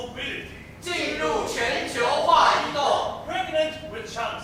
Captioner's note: Mandarin